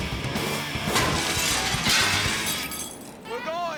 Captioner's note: upbeat music; glass shattering